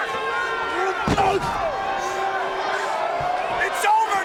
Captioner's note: CM Punk grunts